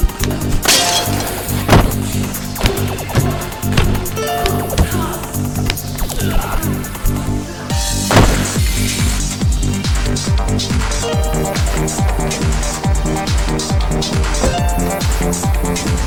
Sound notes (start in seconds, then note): 6.1 thug groaning; 8.8 exciting techno beat music